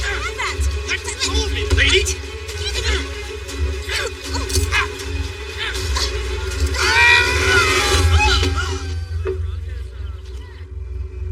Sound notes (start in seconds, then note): 2.1 gruntnting; 6.4 shouting; 7.2 gasps; 9.1 grim music